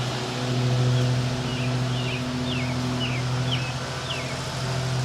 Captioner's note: lawn mower rattling